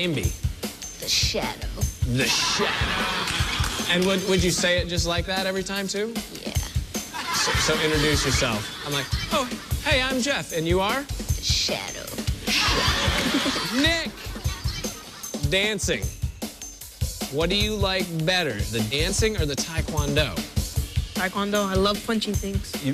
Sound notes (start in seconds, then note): 0.3 using deep voice; 6.1 using deep voice; 11.1 using deep voice